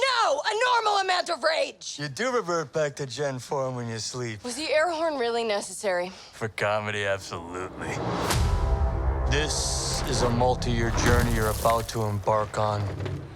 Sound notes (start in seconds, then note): 7.6 air whooshes